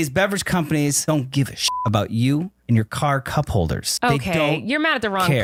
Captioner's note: beep